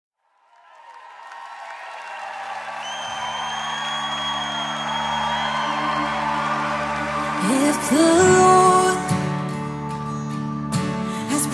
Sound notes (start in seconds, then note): 0.0 audience applauds and cheers; 3.1 inspirational music